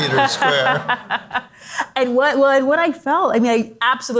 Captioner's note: all laugh